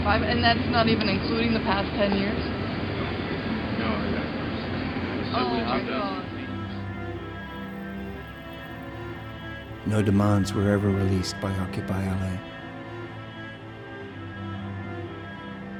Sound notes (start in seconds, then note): 10.0 voiceover